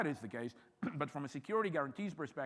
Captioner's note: clears throat